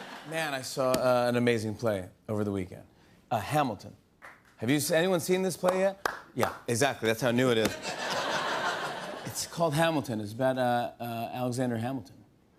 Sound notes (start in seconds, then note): 6.0 solitary clapping; 7.7 laughter